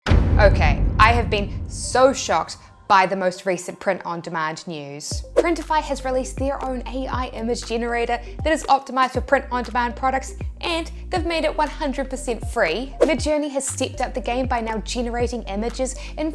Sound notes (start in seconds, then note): 0.0 cinematic boom